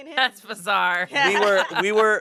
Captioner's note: laughs